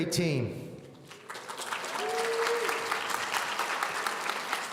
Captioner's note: audience applauding